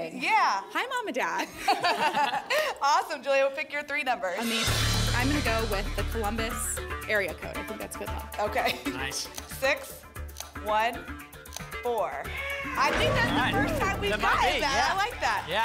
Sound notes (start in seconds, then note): 1.4 laughter